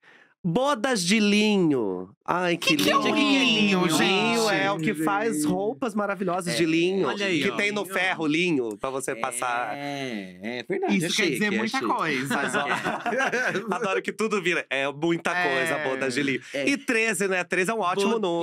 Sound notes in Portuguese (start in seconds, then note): 11.8 risos